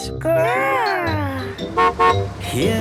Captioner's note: horn honking